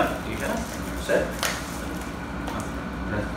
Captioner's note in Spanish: Nailon rompiéndose